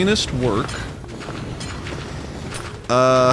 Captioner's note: crashing